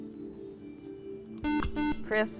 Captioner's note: buzzer